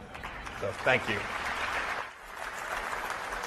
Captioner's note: applause